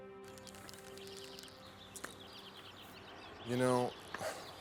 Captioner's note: birds chirping